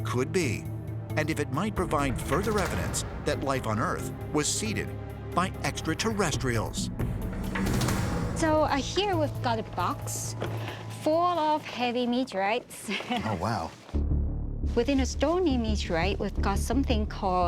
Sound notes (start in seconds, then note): 12.8 chuckles